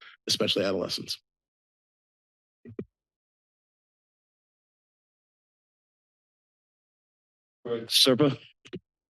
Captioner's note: silence